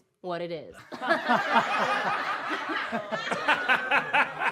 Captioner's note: all laughing; audience laughing